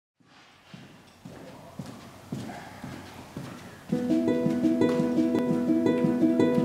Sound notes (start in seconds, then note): 0.2 footsteps